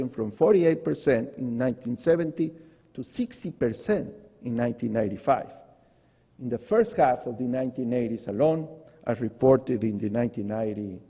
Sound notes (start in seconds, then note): none